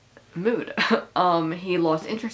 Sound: laughing

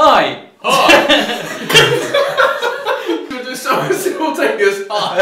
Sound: laughing

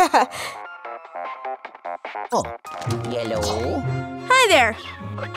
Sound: chuckles; funky ringtone returns

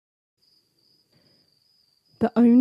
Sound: silence; crickets chirping

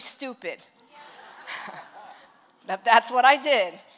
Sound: congregation laughs

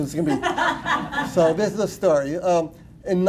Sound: laughter

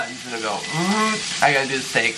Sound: vocalizes

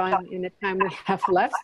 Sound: laughs

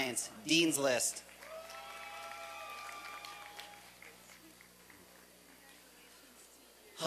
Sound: applause and cheering

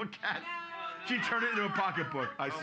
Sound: audience groaning

